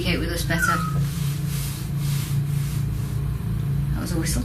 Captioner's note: whistling